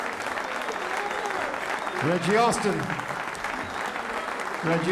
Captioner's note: song ends, applause continues